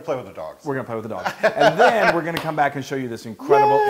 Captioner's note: laugh